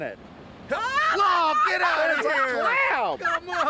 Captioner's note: laughter